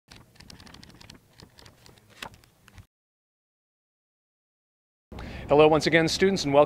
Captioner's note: book pages flipping